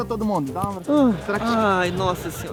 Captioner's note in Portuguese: suspira